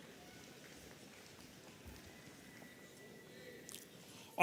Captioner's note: audience applauding